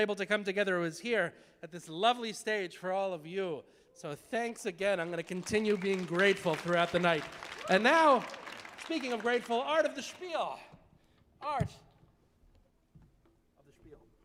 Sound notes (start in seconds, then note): 7.5 audience applauding